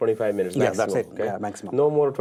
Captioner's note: murmurs